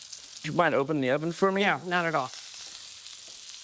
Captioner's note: meat sizzling